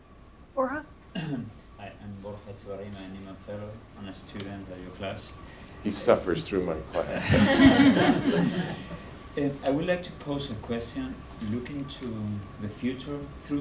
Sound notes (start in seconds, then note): 7.0 laughter